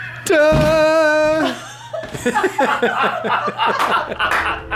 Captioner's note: all laugh